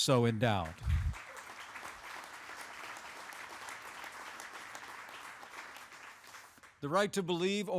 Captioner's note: applause